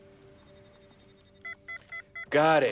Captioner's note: beeping